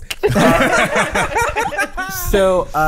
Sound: all laughing

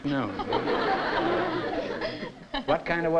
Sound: laughter

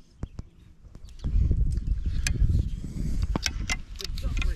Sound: wind blowing

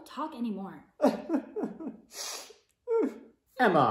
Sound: Miss Bates cries

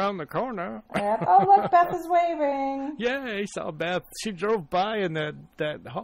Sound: DJ laughs

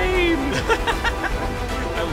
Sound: laughing

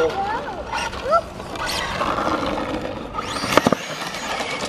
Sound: engine revving

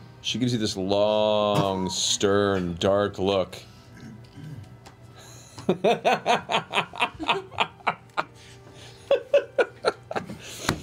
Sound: laughs

